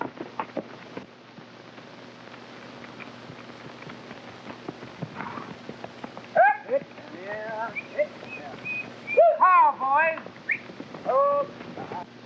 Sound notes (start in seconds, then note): 0.1 hooves clopping; 6.3 cowboys whooping; 7.5 cowboys whistling